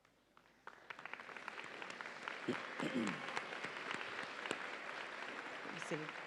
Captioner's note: audience applauds and cheers